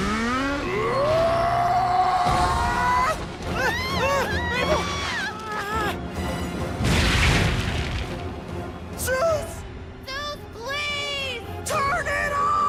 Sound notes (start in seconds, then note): 0.6 grunting, yelling; 3.5 both screaming